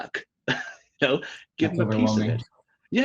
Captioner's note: laughs